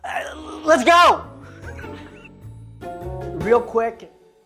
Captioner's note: chuckling